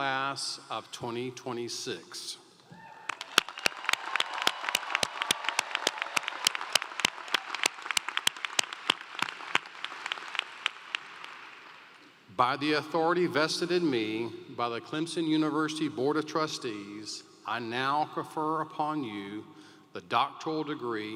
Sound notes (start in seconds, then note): 10.0 cheers and Applause